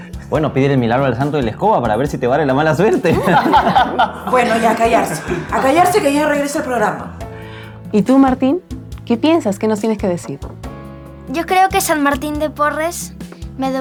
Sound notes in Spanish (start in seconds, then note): 2.8 risas